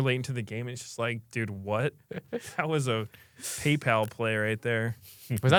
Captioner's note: laughs